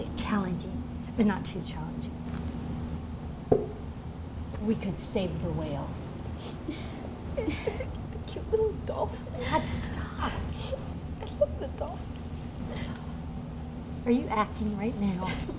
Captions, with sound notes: - Challenging, but not too challenging. - We could save the whales. (sniffling) And the cute little dolphins. - God, stop. - (sniffling) I love the dolphins. Are you acting right now?